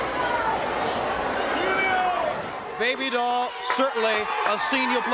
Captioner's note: crowd chatter